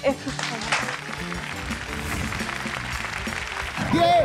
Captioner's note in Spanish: Aplausos